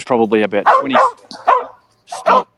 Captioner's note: dog barking